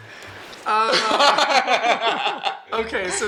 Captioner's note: laughs